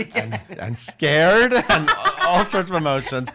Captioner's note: laughing